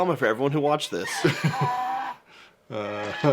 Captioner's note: brays